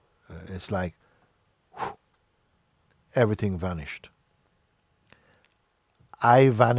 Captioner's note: exhales sharply